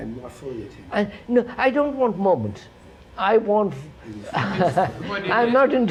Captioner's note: laughs